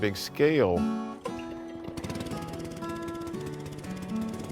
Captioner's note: mechanical engine